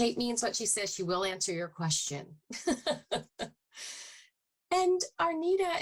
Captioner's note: laughs